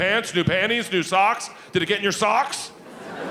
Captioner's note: audience laughing